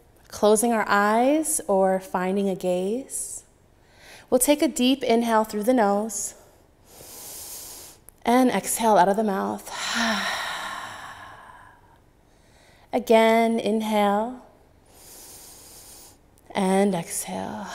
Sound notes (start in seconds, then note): 6.9 inhaling; 9.6 exhaling; 14.9 exhaling; 14.9 inhaling